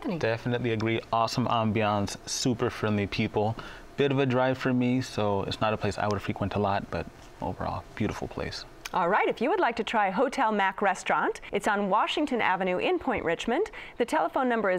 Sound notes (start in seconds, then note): none